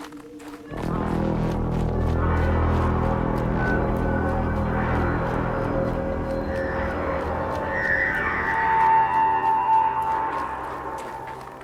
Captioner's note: horn blares